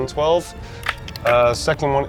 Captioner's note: die rattling